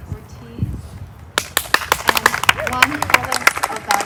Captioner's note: applause